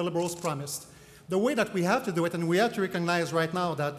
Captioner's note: camera shutters clicking